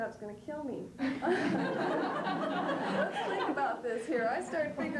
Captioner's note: laughter